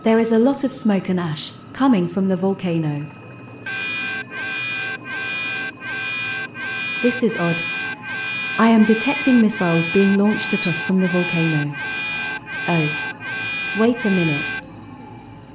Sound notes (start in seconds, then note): 3.3 warning Siren